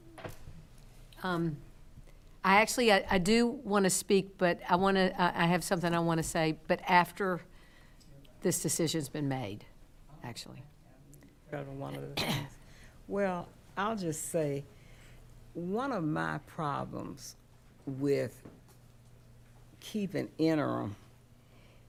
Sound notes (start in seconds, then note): 11.4 speaking quietly; 12.0 coughing